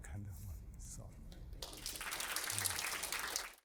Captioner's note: applause